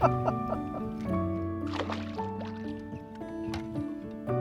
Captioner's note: man laughing